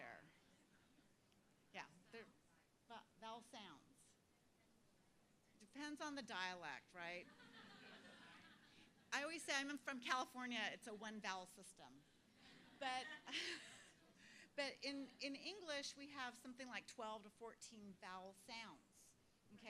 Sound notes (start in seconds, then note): 12.4 laugh